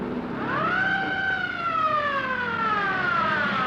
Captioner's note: siren wailing